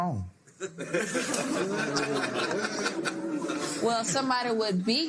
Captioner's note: laughter